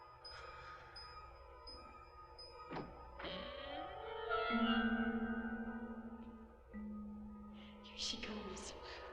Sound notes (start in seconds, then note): 2.6 door creaking